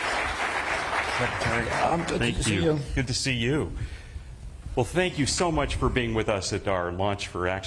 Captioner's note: applause